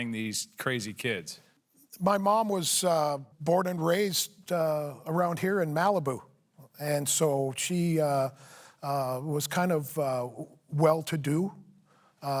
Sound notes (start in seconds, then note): none